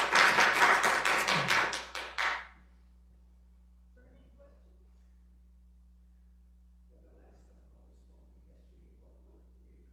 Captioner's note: applause